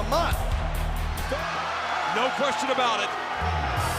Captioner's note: applause